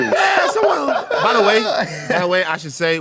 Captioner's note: laughter